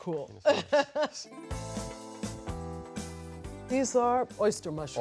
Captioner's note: laughs